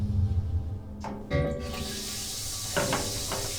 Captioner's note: hissing